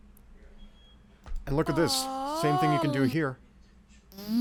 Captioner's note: voicebox noises continue